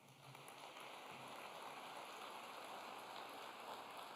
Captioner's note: applause